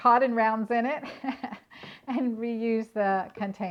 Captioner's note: laughs